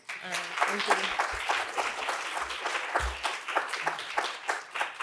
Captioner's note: applause